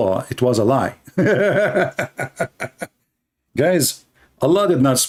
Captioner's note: Ketawa